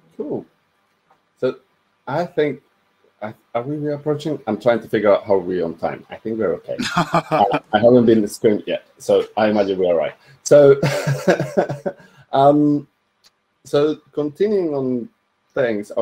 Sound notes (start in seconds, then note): 6.7 laughs; 10.8 laughs